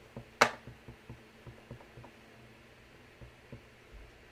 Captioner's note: stamp tapping